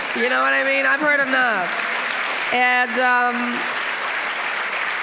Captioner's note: audience applauding